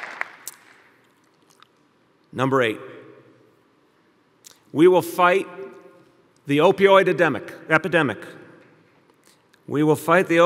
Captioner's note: applause